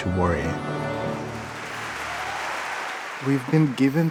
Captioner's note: applause